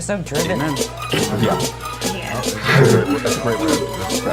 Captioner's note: giggles